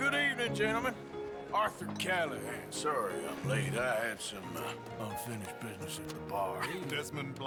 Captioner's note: laugh